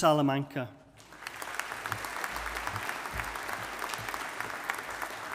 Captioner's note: audience applauding